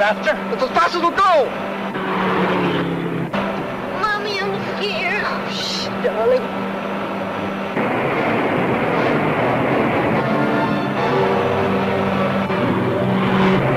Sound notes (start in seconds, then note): 2.1 car engine revving; 7.7 water splashing; 12.2 car engine revving